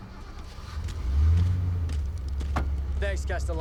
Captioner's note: engine starting